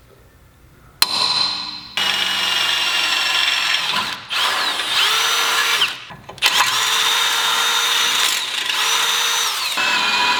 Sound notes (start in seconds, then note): 1.9 drilling